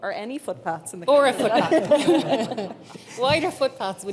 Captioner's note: chuckles